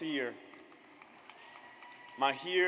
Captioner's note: audience applauds